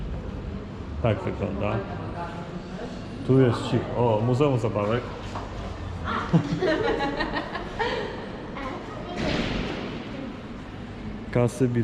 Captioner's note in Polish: śmiech